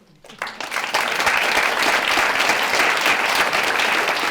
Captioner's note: applause